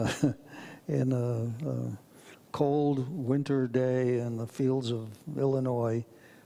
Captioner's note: chuckles